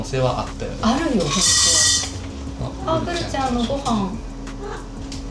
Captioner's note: Guru's automatic feeder sound